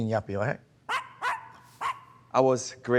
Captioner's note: dogs barking